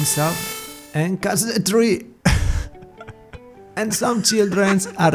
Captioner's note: laughs